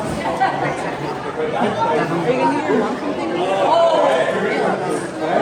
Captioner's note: chatter